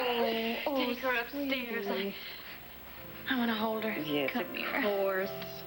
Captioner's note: starr cries